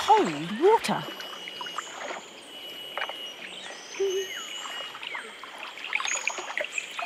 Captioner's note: water rustling; birds chirping